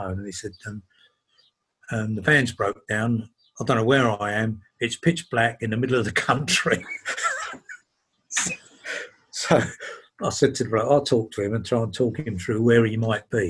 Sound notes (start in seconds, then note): 6.1 laughs